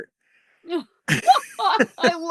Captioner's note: laughter